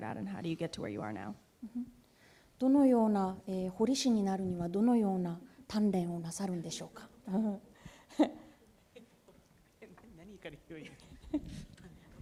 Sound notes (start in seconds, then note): 2.6 speaking japanese